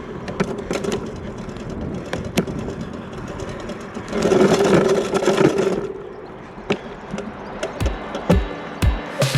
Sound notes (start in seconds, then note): 0.0 bike rattles; 5.0 bike rattles loudly